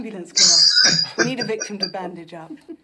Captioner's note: laughing